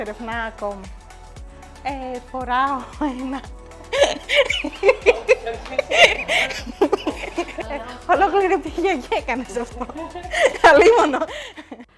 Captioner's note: laughs